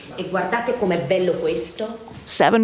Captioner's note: teacher speaking in foreign language